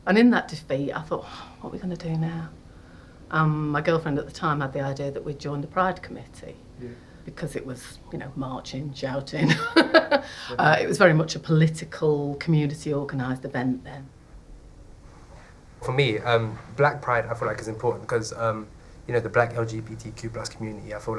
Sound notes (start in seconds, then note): 9.3 laughing